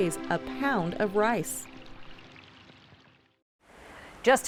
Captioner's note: sound of flowing water